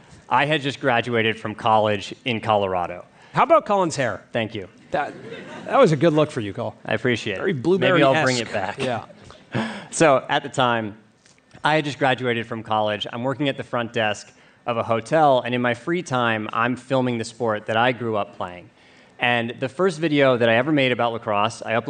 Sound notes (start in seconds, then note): 5.0 laughter; 7.9 laughs